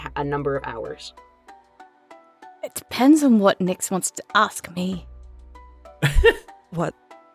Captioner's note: chuckles